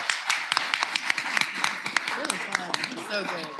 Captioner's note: applause